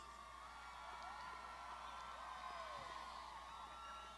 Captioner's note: graduands shouting